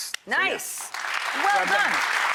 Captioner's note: audience applauds